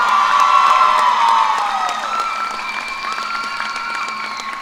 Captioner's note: cheers and applause